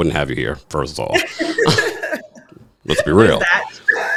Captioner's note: both laughing